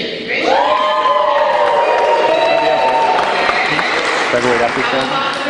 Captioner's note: cheering